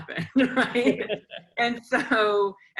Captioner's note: laughter